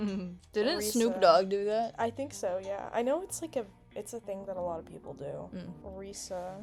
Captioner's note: giggles